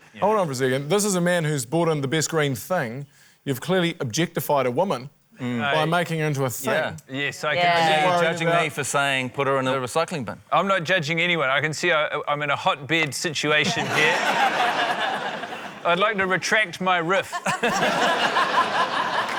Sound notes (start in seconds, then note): 13.6 laughter; 17.2 laughter